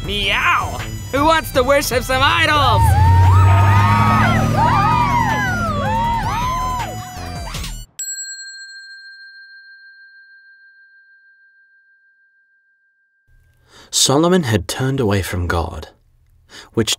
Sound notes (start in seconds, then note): 2.2 people cheering; 8.0 bell dinging